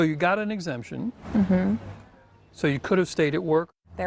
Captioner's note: mmm- hmm